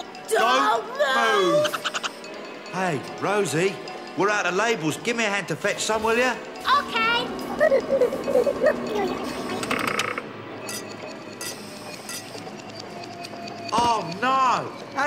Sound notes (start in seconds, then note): 7.4 Boggart gibbering; 9.2 creak